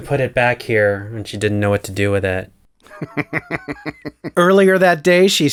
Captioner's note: laugh